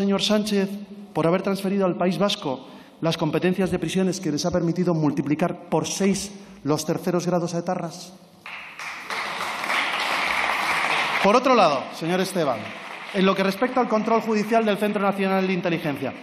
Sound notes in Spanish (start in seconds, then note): 8.4 Aplausos